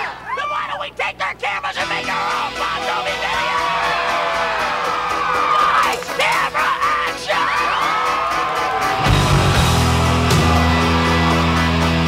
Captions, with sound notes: - THEN WHY DON'T WE TAKE THEIR CAMERAS AND MAKE OUR OWN BON JOVI VIDEO? (CROWD CHEERING) LIGHTS, CAMERA, ACTION! (CROWD CHEERS) (LIVELY ROCK MUSIC)